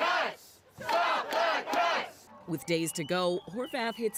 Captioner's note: cheers and applause